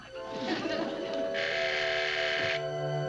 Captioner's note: doorbell rings